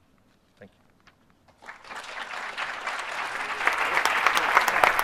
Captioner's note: applause